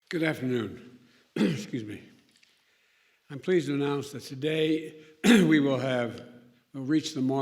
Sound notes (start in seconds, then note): 1.4 clears throat